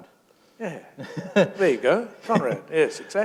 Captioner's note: chuckle